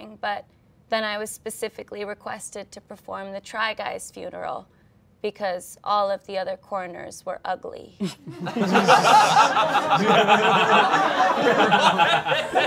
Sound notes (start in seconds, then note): 8.0 all laughing